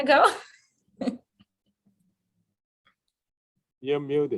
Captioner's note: chuckles